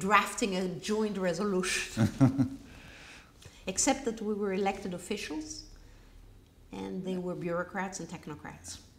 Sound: laughs

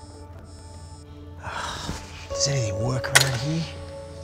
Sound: sighs

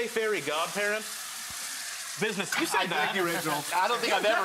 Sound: sizzling

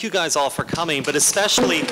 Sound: applause

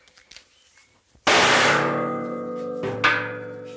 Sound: loud clang

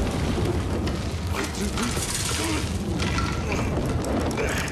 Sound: ceiling creaking

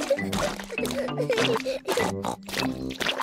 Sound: peppa laughs and snorts

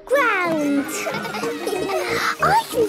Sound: children laughing

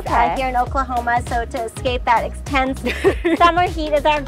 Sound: chuckles

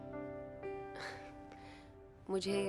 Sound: chuckles

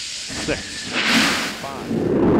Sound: roar of engines igniting

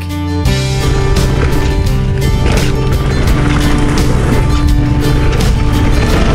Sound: tires rumbling on the ground

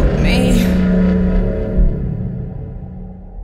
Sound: fog horn

